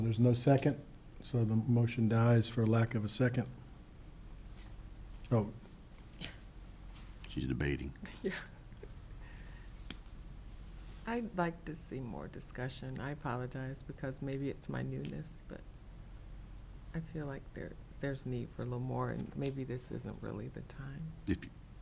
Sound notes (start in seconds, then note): 8.0 chuckles